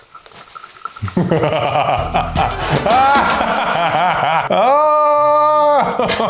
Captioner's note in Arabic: يضحك بتهديد